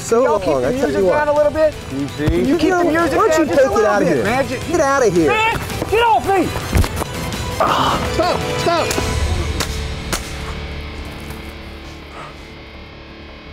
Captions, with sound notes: - Can y'all keep the music down a little bit? - Get outta here! - Man, get off me! (yell) - Stop! Stop! (rock music)